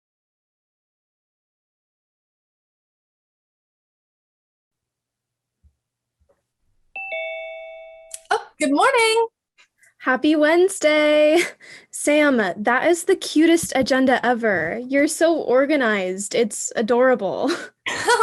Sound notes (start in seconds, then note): 6.9 bell dings